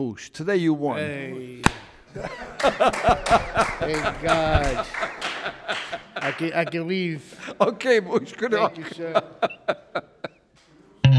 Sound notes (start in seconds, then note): 2.0 judge laughs